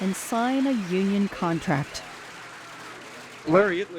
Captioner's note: people cheering